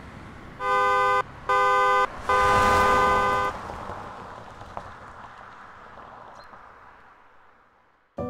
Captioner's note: horn sound